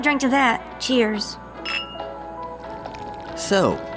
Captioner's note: glasses clink